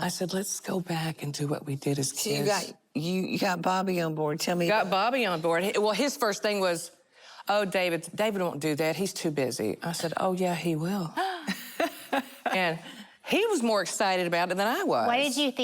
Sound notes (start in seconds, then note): 11.2 laughter